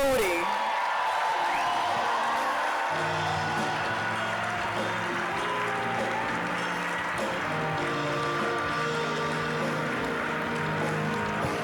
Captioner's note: applause, cheering; uplifting music